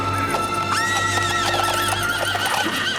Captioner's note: whinnying